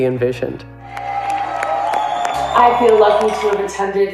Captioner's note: crowd cheering